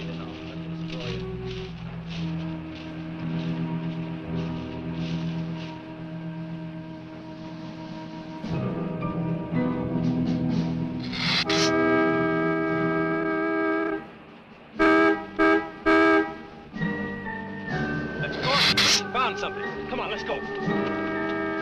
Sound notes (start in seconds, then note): 11.4 car honking; 21.4 dramatic music